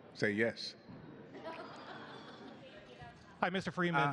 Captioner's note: laughter